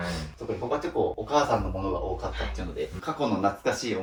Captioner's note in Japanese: 鼻息; 咳払い